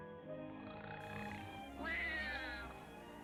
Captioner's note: man snoring; baby crying